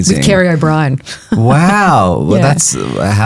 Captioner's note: chuckles